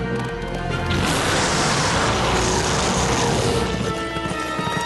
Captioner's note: roaring